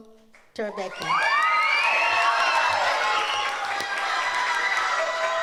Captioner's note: audience cheers